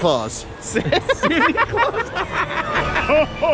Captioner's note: laughing